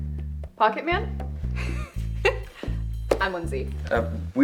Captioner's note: laughing